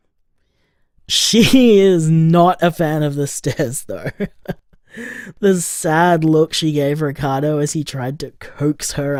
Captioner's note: laughs